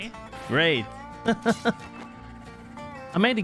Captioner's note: laughs